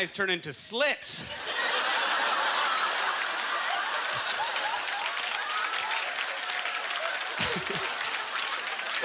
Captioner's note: audience laughter; applause